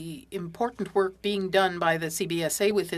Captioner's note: speaking French